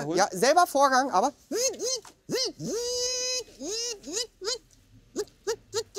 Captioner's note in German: macht Robotergeräusche